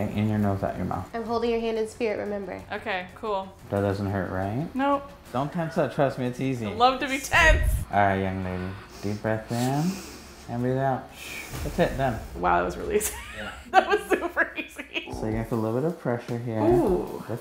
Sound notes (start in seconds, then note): 13.2 laughs